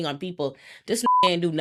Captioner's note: beep